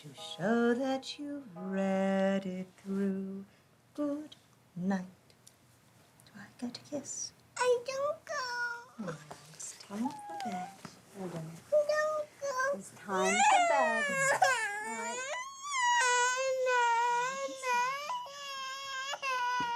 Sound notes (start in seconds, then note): 10.0 child whines; 13.1 Myrtle crying; 17.5 crying